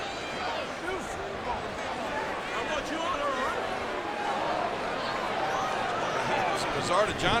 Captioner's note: crowd clamoring